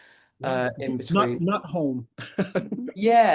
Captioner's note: laughs